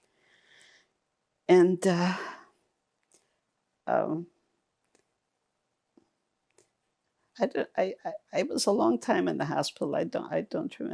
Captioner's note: pauses 6 seconds